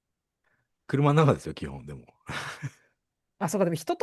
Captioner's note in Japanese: 笑い